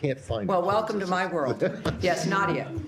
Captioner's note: laughter